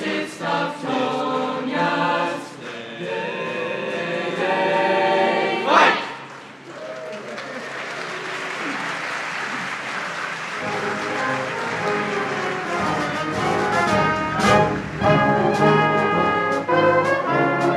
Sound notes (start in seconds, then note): 6.9 audience applauds; 10.4 bright marching band music